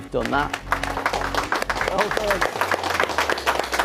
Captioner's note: clapping